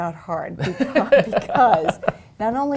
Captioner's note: laughing